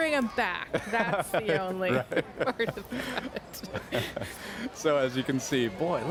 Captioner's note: laughter